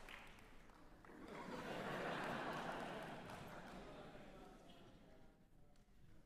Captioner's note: laughter